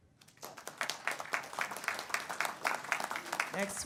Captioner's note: audience applauds